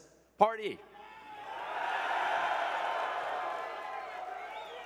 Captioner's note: crowd cheering